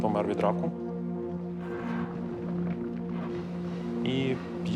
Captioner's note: dirt rumbling